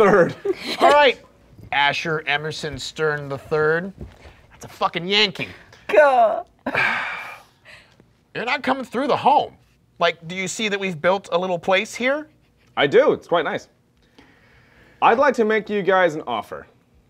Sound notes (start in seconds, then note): 0.0 laughing; 6.7 sighing